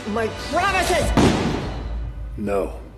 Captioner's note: gunshot